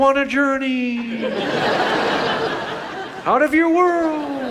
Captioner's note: audience laughs